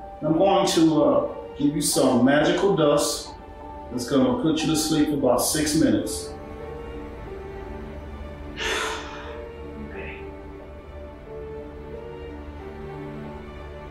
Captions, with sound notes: I'm going to give you some magical dust that's gonna put you to sleep for about six minutes. - (sighs) Okay.